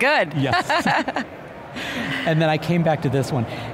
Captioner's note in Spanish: se ríen